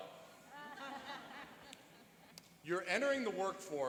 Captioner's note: laughing